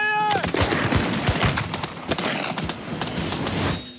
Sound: gunshots

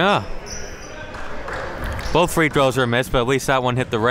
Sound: applauding

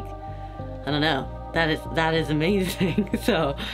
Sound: laughs

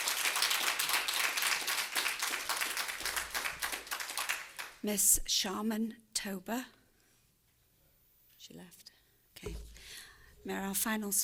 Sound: applause

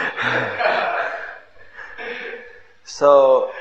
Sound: laughs

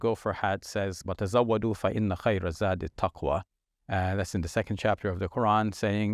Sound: speaking in Arabic

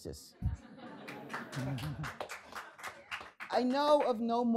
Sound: audience laughing and applauding

